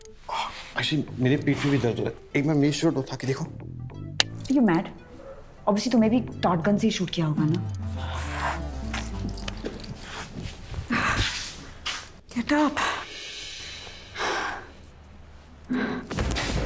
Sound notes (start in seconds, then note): 13.0 Exhales sharply